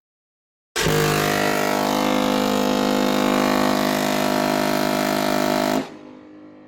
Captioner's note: R.M.S. Queen Mary blasts her horn